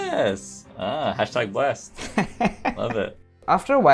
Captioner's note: laughter